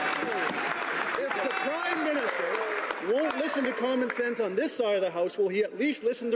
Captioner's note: some Applause